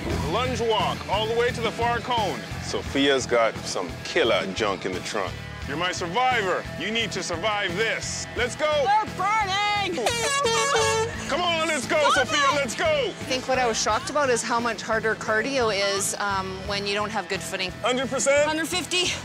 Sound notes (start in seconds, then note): 9.9 horn blowing